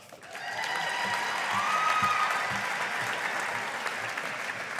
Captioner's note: audience applauding